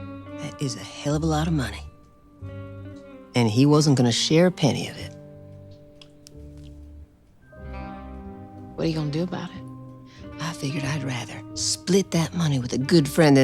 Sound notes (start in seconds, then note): none